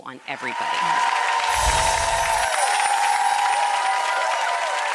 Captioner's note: audience cheering